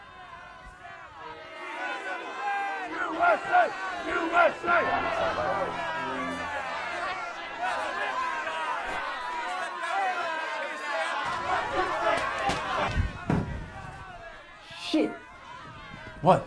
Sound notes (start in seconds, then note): 0.2 crowd yelling; 5.4 crowd yelling; 12.6 glass shattering; 13.8 crowd yelling